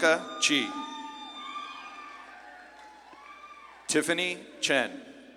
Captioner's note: audience claps and cheers